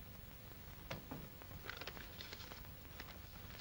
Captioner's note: door closes